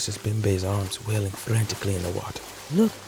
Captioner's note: water splashes